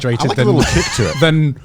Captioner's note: chuckling